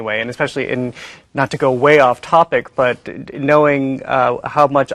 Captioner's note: none